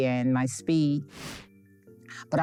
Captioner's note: air whooshing